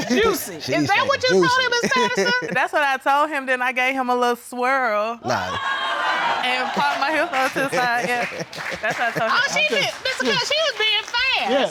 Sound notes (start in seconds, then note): 5.5 audience clamoring; 7.6 chuckling